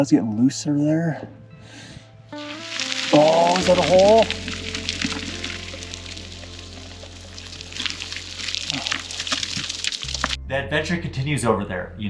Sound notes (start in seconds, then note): 2.4 rocks crashing